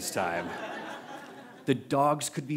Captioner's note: laughter